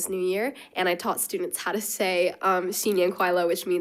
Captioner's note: speaks foreign language